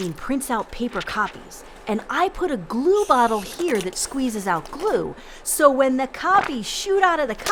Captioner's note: squirting sound